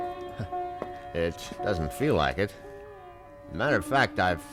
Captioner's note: chuckles